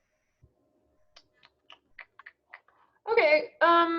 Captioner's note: mouth clicking